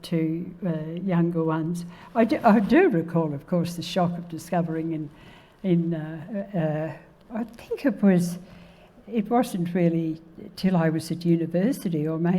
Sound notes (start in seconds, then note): none